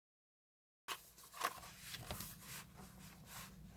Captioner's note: sketchbook paper noises